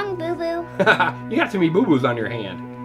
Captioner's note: laughs